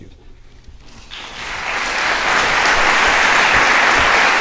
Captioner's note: applause